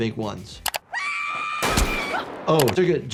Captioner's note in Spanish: estallidos de armas